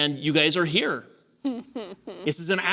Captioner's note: laughter